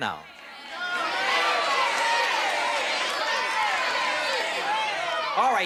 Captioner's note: audience shouting